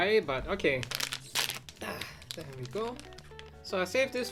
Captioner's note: wrapper crinkles